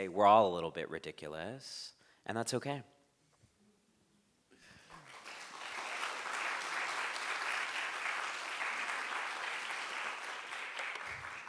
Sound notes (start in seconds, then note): 4.8 crowd applauds